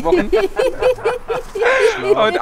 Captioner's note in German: Sie lachen